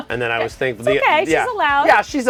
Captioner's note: laughing